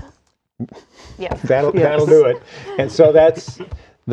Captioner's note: laughter